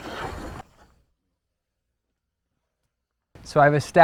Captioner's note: pencil scarring wood, no additional audio